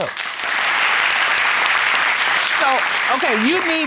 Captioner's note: audience applauding